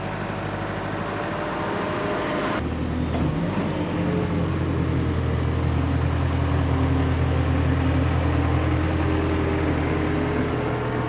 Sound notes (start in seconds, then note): 5.2 rumbling of engine